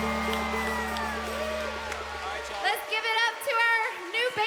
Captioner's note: audience cheering